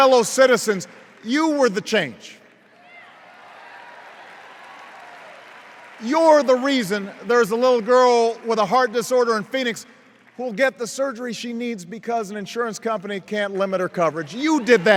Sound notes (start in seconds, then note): 2.7 cheers